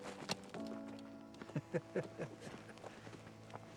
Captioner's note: slight laughter